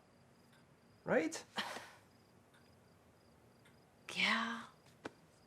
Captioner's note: Robin huffs